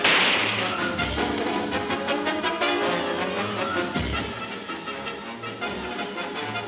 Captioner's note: guns firing; dramatic music; dramatic music continues